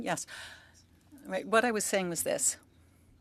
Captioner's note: speaking French